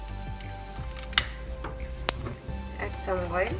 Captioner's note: button clicking